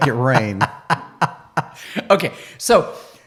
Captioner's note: laughing